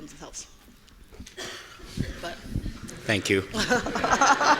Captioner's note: coughing; audience laughing